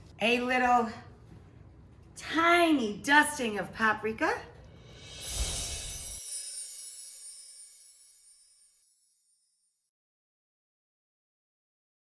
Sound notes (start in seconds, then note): 4.8 air whooshing; 5.0 chimes tinkling